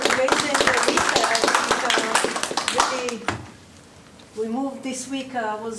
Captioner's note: audience applause